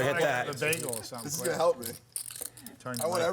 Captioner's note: laughter